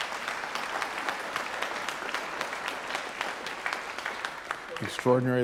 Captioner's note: audience applauding